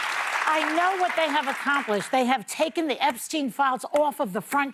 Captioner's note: applause